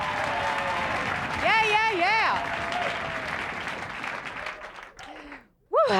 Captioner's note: applause cont; applause fades